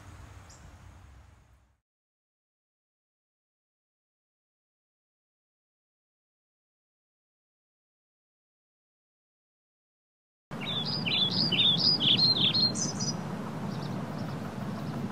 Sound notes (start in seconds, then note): 10.5 birds chirping